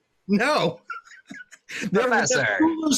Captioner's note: laughs